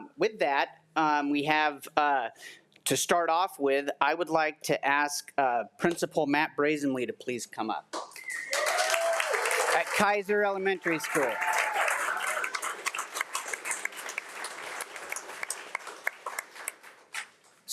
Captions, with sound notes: With that we have to start off with I would like to ask Principal Matt Broesamle to please come up. (audience applauding) At Kaiser Elementary School. (audience applauding)